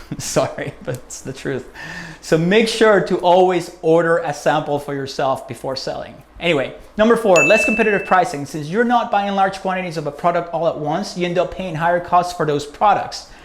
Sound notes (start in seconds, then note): 7.3 bell